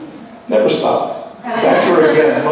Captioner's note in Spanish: Laughing